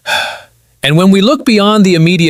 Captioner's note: sighs